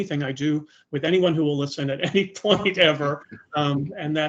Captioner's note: chuckling